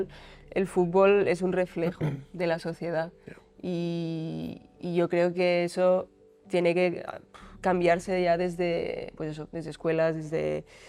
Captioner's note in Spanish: carraspeo